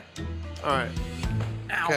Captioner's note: foot thumping